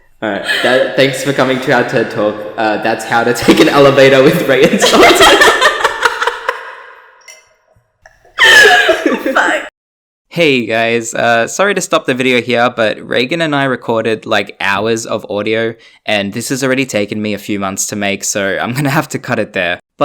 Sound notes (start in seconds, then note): 4.3 both laugh